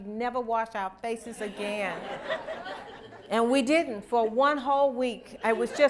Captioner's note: laughter